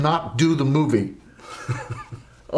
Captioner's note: braga chuckles